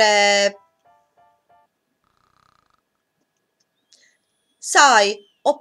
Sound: snoring

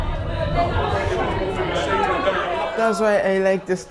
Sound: excited chatter

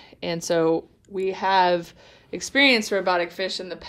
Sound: none

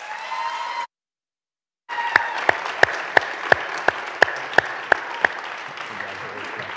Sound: audience cheering; audience clapping

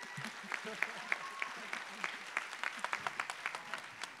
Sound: applause

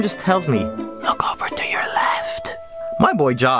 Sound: whispering

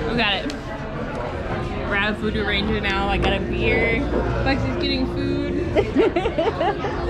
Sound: giggles

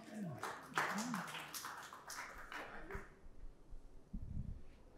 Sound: audience applauds

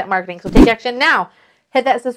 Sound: whooshing

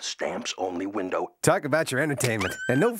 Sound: squealing

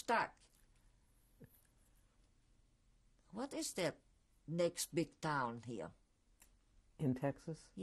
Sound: pauses for 3 seconds

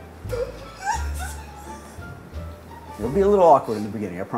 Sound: laughter

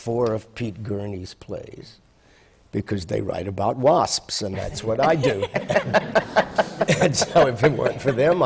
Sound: laughter

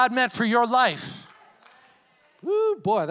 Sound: congregation cheers and applauds

